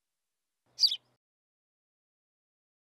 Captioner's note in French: chant d’oiseau